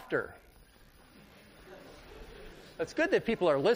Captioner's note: laughter